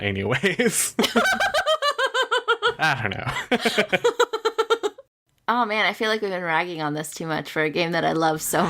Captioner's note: laughs